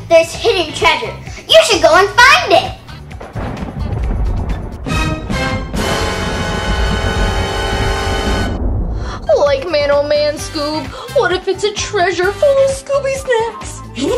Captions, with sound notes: there's hidden treasure. You should go and find it. (thunder) (spooky music) - Like man oh man Scoob. What if it's a treasure full of Scooby snacks?